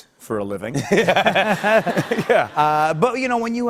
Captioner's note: laughter